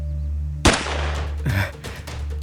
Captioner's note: gunshot